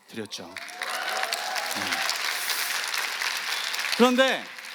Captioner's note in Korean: 박수